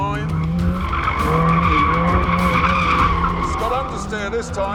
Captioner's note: tyres screeching